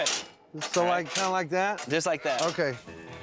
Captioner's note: clanging sound